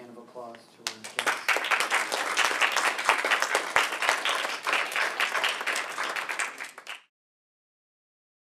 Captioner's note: applause